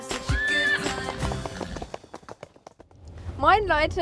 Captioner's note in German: Hufgetrappel